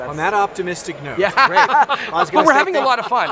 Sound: laughter

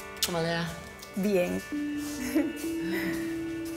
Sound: chuckles

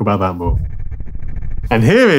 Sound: transition reverberates

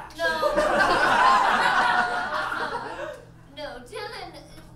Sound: audience laughs

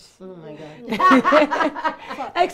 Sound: laughter

